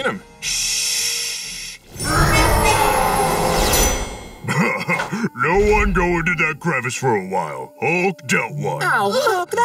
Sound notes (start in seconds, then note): 2.0 roaring; 4.4 laughing